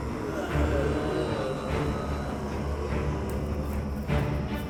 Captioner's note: creatures moan and growl